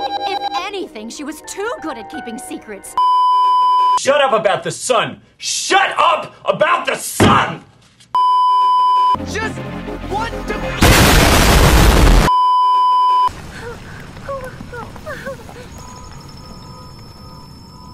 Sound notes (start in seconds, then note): 0.0 notification tone; 3.0 beeeeeep; 8.2 beeeeeep; 12.2 beeeeeep; 14.2 panicked & traumatized whimpering